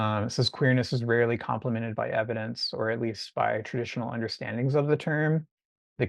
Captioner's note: none